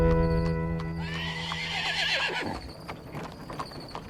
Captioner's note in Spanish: Relinchos